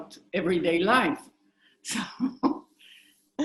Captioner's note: chuckling